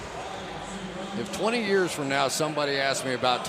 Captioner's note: pa announcement